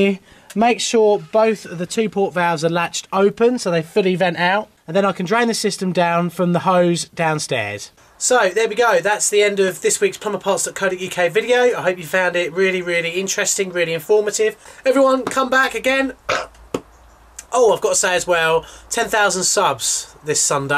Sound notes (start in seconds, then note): 15.6 clap; 16.2 burping